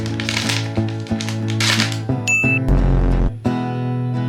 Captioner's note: beeping